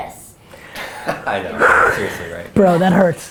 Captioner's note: laughs